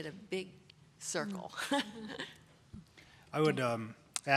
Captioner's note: chuckles